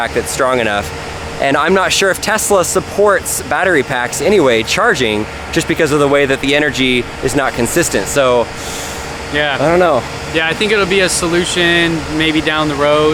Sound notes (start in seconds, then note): 8.5 inhales sharply